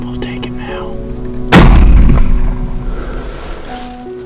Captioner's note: sound of gunshot